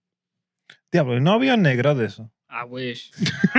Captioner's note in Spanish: Hablando en idioma extranjero